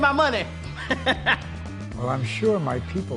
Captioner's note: laughs